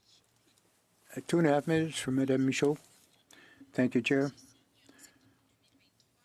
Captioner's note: speaking French